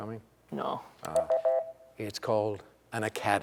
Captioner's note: beep